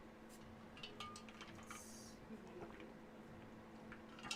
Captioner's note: ice rattling softly